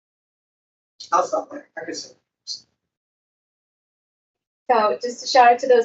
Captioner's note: microphone cuts out